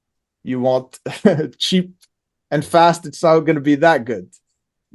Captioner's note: laughs